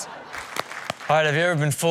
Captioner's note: crowd applauding